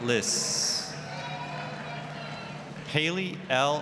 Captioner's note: applause, cheering